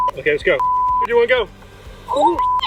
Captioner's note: beep